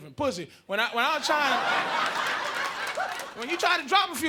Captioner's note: audience laughing